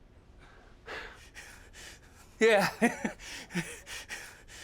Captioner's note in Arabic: ضحك عصبي